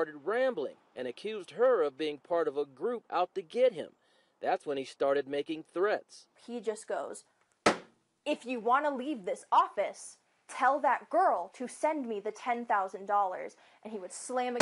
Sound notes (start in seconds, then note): 7.6 bangs on desk